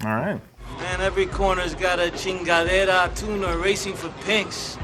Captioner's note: speaking in foreign language